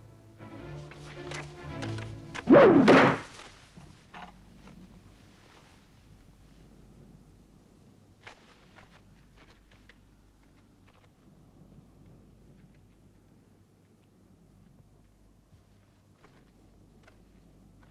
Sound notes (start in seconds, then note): 0.0 dramatic music; 2.3 spear thuds